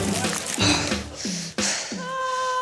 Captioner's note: pants heavily